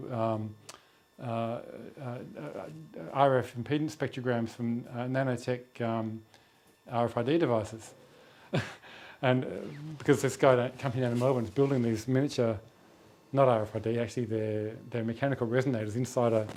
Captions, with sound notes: "..RF impedance spectrograms from nanotech RFID devices." (CHUCKLES)